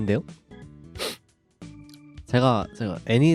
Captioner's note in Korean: 훌쩍